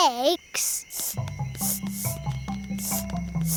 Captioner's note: sniffing